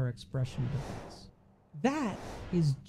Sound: whooshing

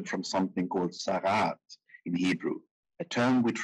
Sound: speaking in foreign language

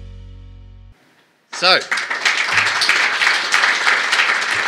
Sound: applause

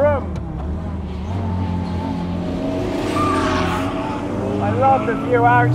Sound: car engine roars

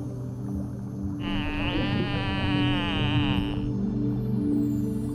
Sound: dolphin calls

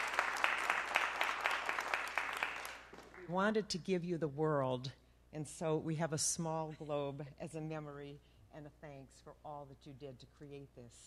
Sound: applause

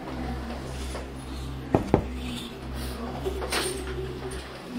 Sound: door knocking

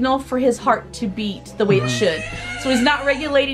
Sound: baby crying

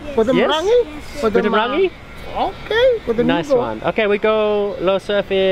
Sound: speaks in foreign language

